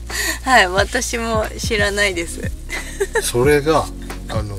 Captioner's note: laughs